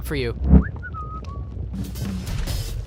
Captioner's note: whistling